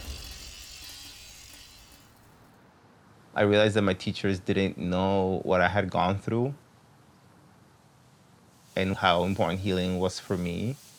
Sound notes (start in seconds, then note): none